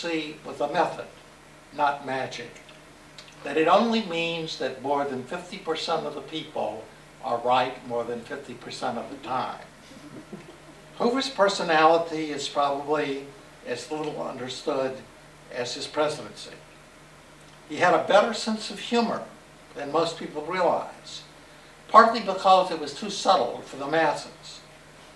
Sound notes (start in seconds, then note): 9.8 laughter